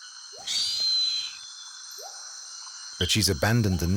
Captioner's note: eagle screeches